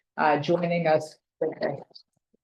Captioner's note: speaking in foreign language